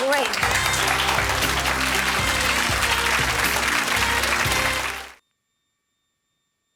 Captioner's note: audience applause; jazzy music